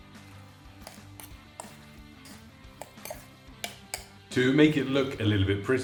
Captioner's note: fork scraping